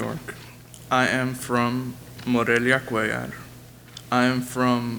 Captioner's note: speaks a foreign language